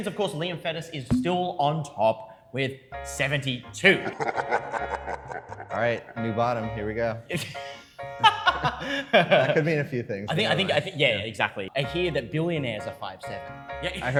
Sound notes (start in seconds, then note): 4.1 menacing laughter; 8.1 laughter